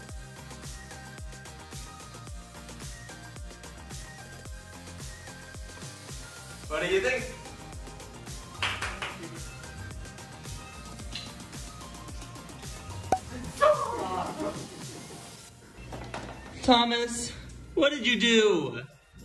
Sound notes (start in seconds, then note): 8.5 claps; 13.1 pop